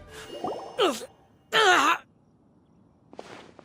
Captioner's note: cough